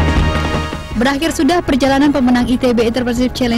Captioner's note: non-english speech